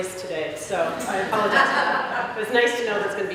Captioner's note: laughter